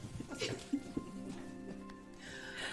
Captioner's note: laughter